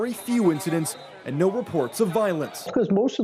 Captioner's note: horn